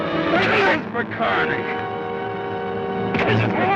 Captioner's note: Joshua groans